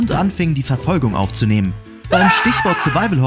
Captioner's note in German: Schrei